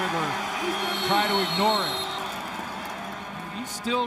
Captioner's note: crowd din